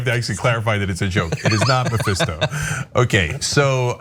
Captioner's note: laugh